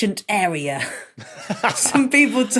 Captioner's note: cackles softly